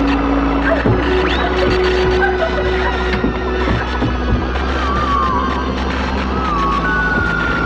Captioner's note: mechanical buzzing; ominous sci-fi music